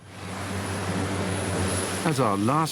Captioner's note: plane whirring; water splashing